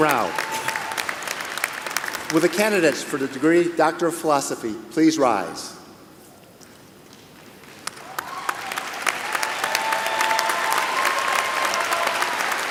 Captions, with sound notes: Rao. Will the candidates for the degree Doctor of Philosophy please rise? (Applause)